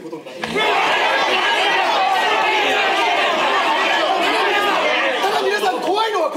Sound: voices of protest

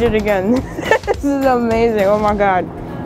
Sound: laughs

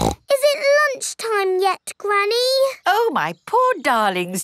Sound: snorts

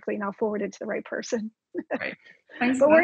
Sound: laughs

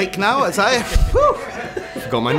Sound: chuckling

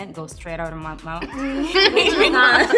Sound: laughs

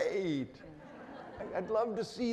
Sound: audience laughing

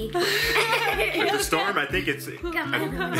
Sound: laughter

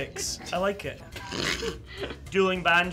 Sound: snorting laughter

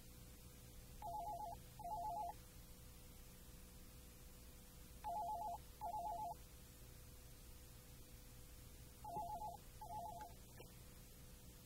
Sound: phone rings

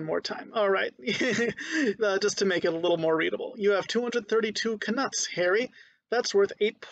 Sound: laughing

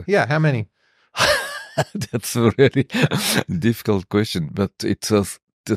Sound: laughs

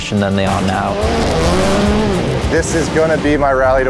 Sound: engines revving

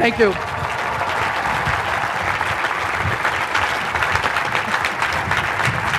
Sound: clapping

